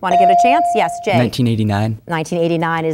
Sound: bell dinging

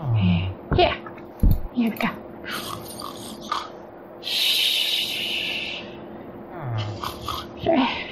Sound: snores

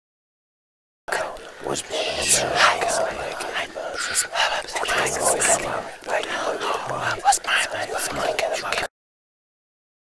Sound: sound of male voices and whispers

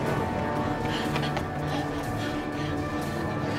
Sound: both panting

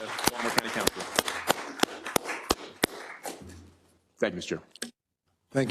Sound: applause

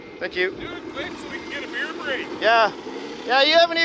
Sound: murmurs

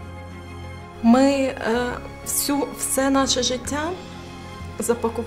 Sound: speaking Ukrainian

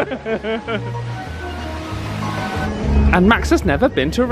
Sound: group laughing

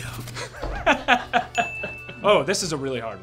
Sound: laughter

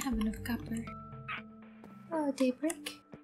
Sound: Daybreak squawks

